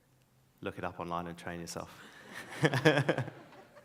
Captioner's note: laughs; audience laughs